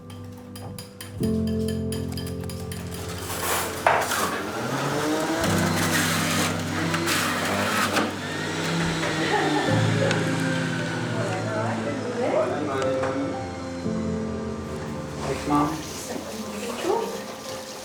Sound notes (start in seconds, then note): 4.3 juicer buzzing; 8.9 laughs